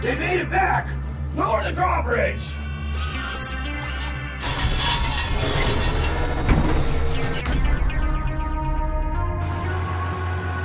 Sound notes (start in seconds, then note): 0.0 music becomes apprehensive; 4.4 drawbridge whirring and clanging